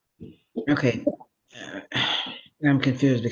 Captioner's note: sighing